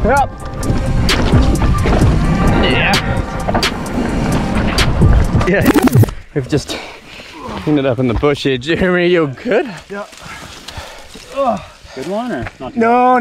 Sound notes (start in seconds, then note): 5.7 tape rolls; 10.9 grunts